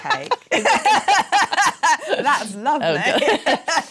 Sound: laughs

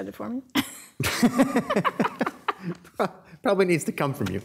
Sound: mayor laughing

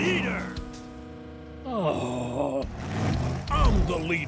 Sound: groaning

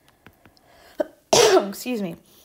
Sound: instructor sneezing

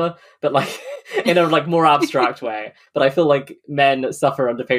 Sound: laughs

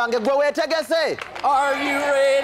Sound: applause and cheering throughout

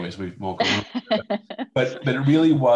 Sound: laughs

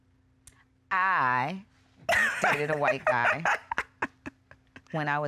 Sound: laughing

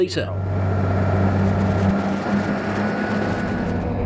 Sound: engine roaring

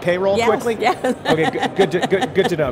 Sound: laughing

